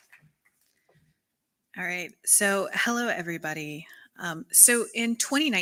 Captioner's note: applause